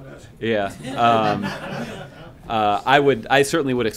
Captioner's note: laughter